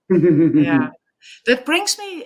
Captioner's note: chuckling